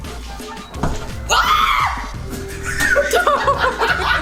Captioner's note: screams; man and woman laugh